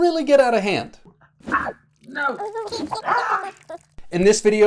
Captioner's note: baby laughing